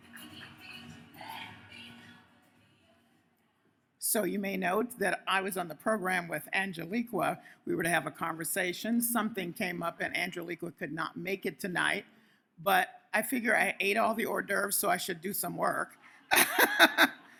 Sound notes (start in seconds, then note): 16.3 laughs